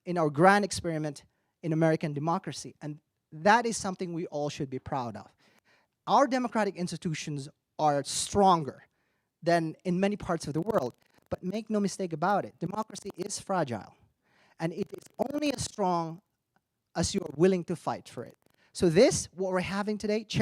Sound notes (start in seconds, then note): none